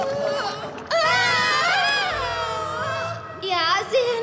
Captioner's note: scream